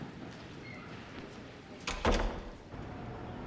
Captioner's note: door closes